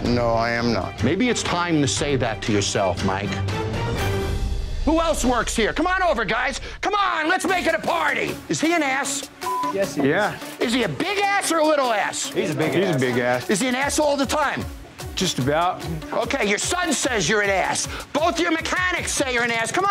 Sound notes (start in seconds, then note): 9.4 beeping